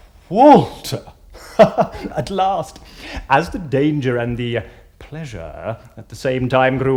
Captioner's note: laughing